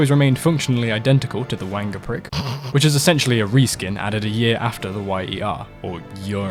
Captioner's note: snort